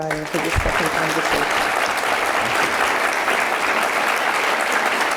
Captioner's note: audience applauding